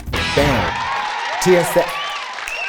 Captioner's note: cheering